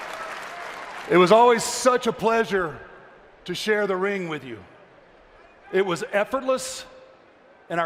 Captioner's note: cheering and applause